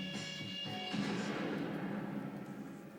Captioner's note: gunshot